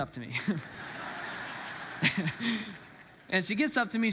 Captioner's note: congregants laughs; laughs